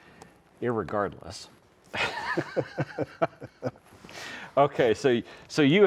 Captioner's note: both chuckle